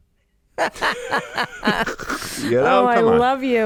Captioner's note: both laugh